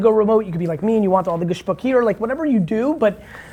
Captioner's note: foreign language